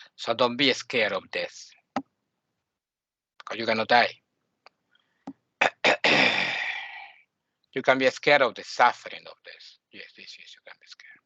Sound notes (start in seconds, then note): 5.6 clearing the throat